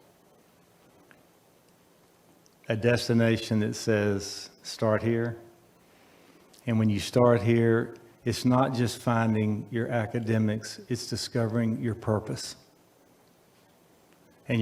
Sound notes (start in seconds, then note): none